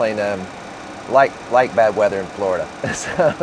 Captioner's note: laughs